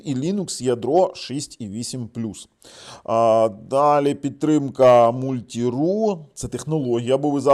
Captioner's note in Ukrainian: сопіння